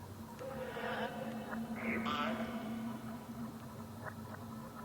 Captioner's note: distorted voice speaking